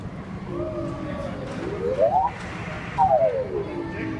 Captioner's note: high pitched rising tone